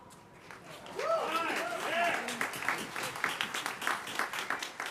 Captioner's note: audience cheering